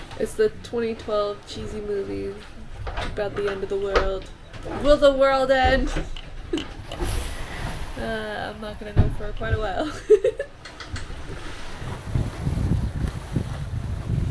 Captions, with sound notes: It's the 2012 cheesy movie about the end of the world. Will the world end?! I'm not goin gto know for quite a while. (Laugh)